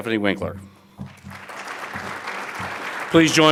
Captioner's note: audience applauds